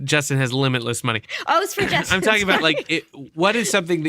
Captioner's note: laughter